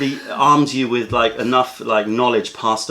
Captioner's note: laughter